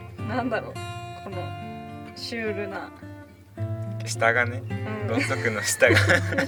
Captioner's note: laughs